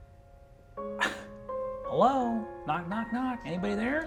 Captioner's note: laughs